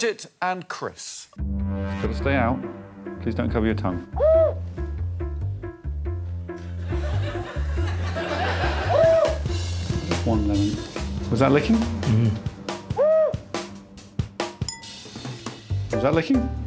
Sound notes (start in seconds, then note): 13.0 whistle blows; 13.0 muttering